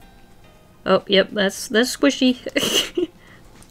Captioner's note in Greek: Γέλια